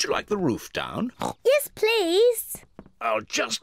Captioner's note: oinks